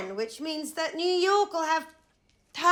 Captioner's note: none